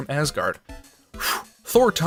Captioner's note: phew